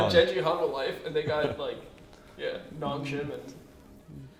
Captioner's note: laughs